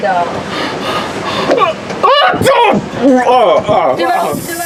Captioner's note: barfing sound